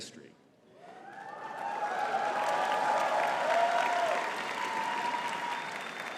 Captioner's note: audience cheering and clapping